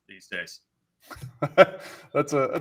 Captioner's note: laughs